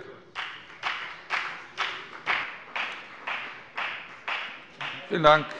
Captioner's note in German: Beifall bei der FDP